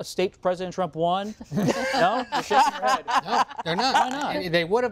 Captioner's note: laughter